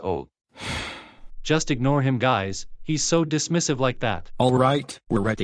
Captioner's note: sighing